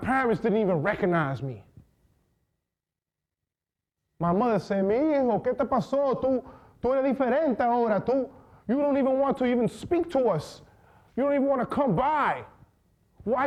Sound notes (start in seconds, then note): 4.7 speaking foreign language